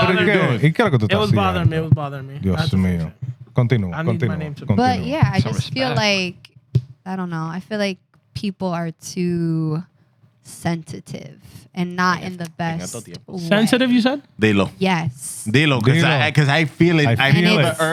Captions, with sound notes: It was bothering me. It was bothering me. (Non-english Speech) But yeah, I just feel like-- I don't know. I feel like people are too sensitive and not in the best-- Sensitive, you said? De lo. Yes. De lo, because I feel it. I feel it.